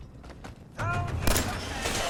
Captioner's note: blam!